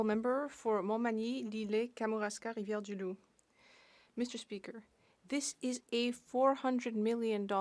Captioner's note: speaking French